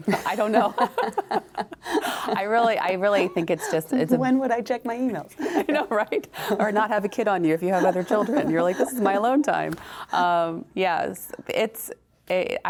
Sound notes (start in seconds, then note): 0.0 both chuckling; 0.1 chuckles